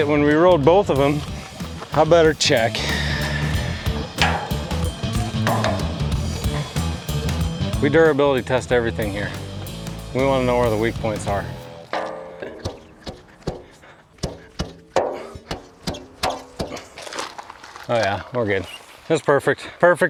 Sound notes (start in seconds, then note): 3.3 upbeat music; 4.4 metals clanking; 4.4 upbeat music; 12.2 metals clanking; 17.2 rustling